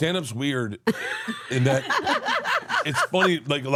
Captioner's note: laugh